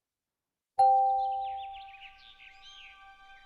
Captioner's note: chiming